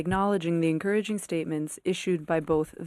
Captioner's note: speaking FRENCH